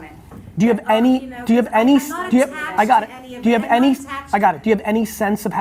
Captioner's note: voices chattering